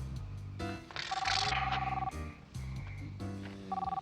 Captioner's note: phone ringing